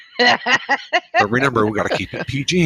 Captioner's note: laughs